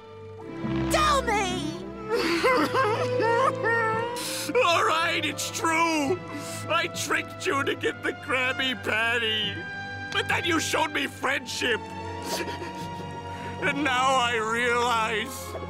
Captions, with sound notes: Tell me! [crying] Alright! It's true! I tricked you to get the Krabby Patty! But then you showed me friendship! [sniffling] And now, I realize...